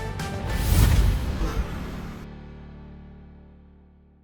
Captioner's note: scene swooshing